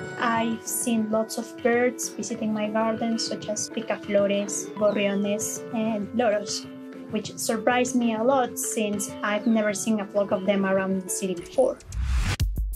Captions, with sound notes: I've seen lots of birds, visiting my gardens, such as... ( speaking Spanish ) ...which surprised me a lot, since I've never seen a flock of them around the city before.